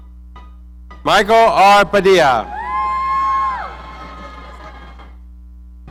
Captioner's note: audience cheering